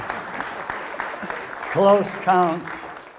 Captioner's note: audience applause